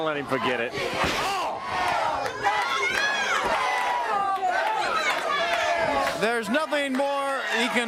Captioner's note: crowd cheering